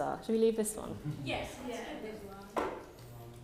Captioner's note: speaking faintly